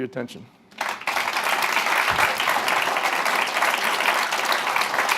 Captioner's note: applause